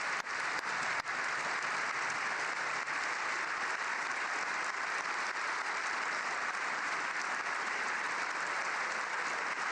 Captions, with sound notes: WE HEARD TALES OF AMERICANS LIKE A COAST GUARD PETTY OFFICER HERE TONIGHT IN THE GALLERY WITH MELANIA. [APPLAUSE]